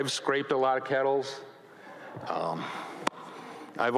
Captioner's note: audience chuckles